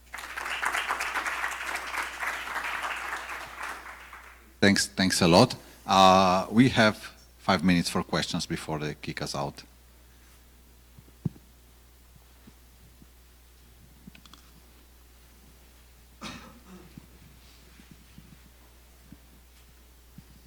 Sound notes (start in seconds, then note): 0.0 audience applauds; 16.2 audience member coughs